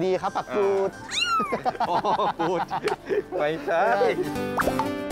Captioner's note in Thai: เสียงหัวเราะ